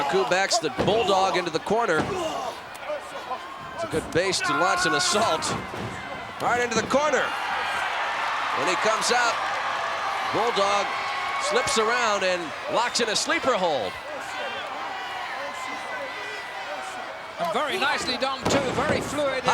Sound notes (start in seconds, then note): 9.5 audience cheering